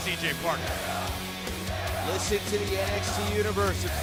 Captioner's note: fans chanting